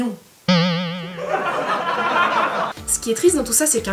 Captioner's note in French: rire